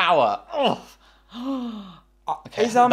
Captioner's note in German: stöhnt